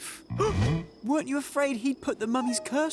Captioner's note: gasps